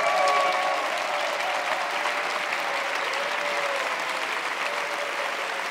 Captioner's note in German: Jubel, Applaus